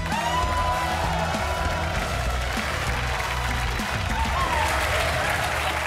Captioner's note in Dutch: applaus